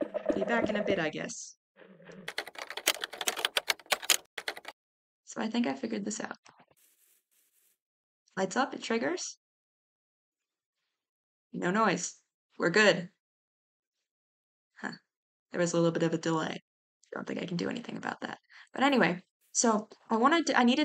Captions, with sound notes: be back in a bit, i guess (sound of typing) so i think i figured this out lights up, it triggers. no noise. we're good. huh. there is a little bit of a delay. i don't think i can do anything about that but anyway. so, i wanted to---i